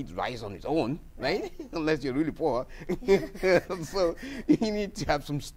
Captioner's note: laughs